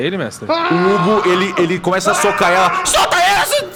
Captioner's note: screaming